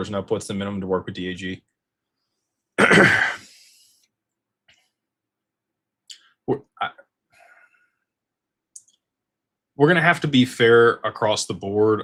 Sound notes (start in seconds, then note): 2.8 clears throat and cough